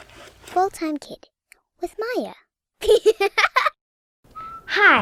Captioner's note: giggles